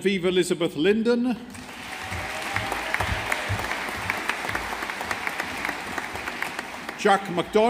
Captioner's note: audience applauding